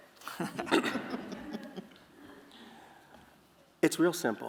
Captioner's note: laughter